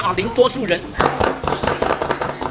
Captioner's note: knock